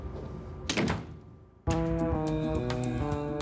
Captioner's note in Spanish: sonido al cerrar la puerta